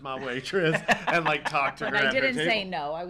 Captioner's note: laughs